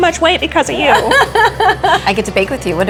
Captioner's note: laughing